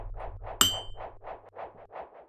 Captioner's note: clink